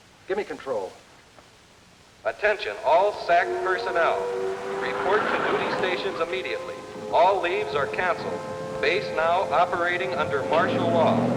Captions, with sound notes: Give me control. - [Man on PA] Attention, all SAC personnel, report to duty stations immediately. All leaves are canceled. Base now operating under martial law.